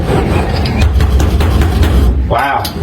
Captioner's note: patting floor of car